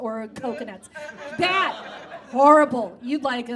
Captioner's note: audience groans